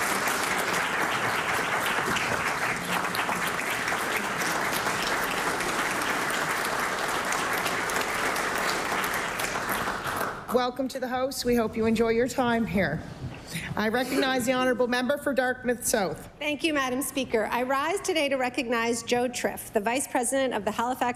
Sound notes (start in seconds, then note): 3.0 applause